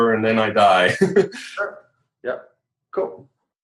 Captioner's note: laughing